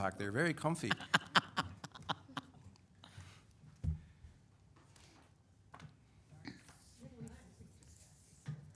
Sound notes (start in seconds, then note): 0.8 laughing